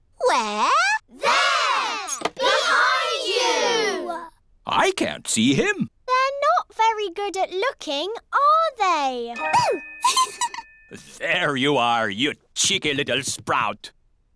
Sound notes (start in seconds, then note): 10.0 giggles